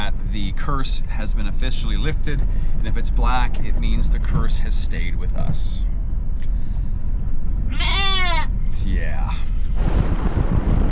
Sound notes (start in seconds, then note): 7.7 sheep bleating